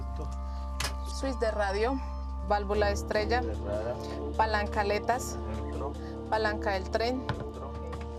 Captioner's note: Spanish spoken audio